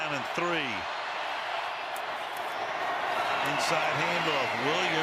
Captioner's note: crowd cheering